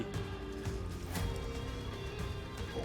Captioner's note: hoofbeats